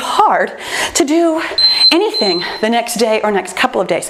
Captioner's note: timer beeps